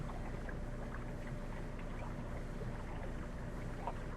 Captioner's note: bubbling noises